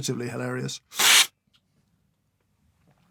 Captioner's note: slurp